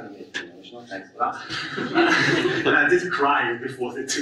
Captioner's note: audience laughs